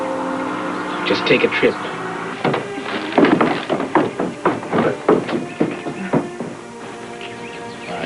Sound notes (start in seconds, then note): 2.3 footsteps